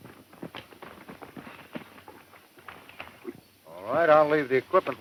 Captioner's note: horses galloping